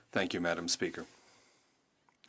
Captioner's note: speaking French